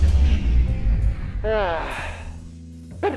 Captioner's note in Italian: sospiro